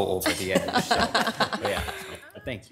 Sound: audience laughing

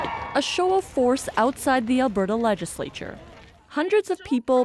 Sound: cheers and Applause

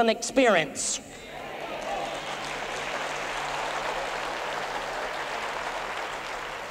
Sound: boisterous applause and cheering

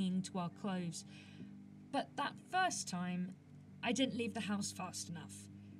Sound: none

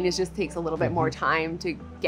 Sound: hums agreeingly

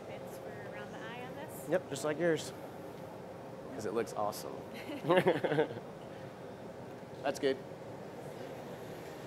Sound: laughter

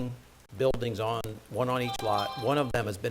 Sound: phone chiming

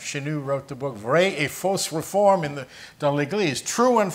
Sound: speaking French language

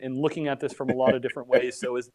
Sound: laughing

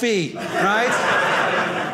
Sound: audience laughing

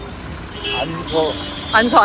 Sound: car

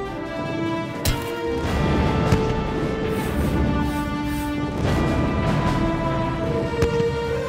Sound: guns blasting continue; bomb blasts continue

